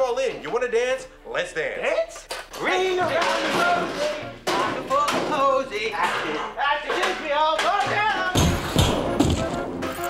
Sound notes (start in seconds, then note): 4.4 table thuds; 9.9 keys chime